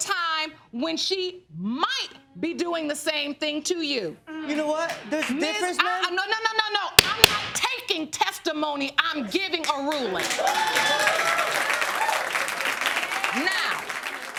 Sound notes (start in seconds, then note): 10.0 audience cheering